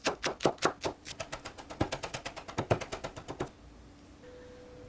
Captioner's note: chop chop chop chop chop chop chop